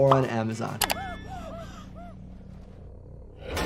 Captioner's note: group gasps